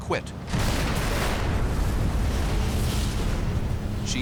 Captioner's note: explosions